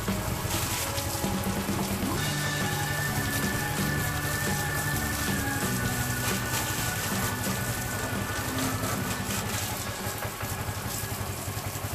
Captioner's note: engine deliberately turned on